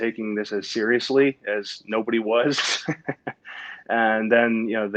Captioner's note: laughs